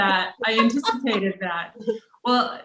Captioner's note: laughter